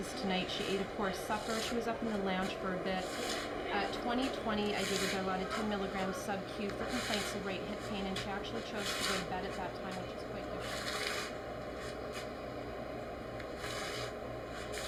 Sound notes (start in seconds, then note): 11.6 footsteps Scraping